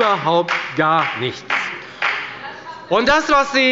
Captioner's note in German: Beifall bei der FDP